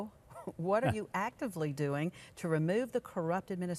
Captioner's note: host laughs